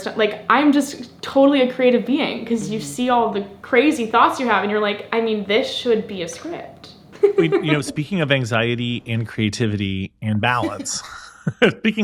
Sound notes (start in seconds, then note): 7.1 laughs; 10.4 laughs